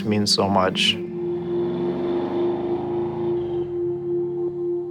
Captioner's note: car engine roaring